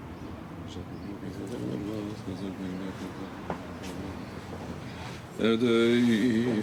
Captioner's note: speaking in foreign language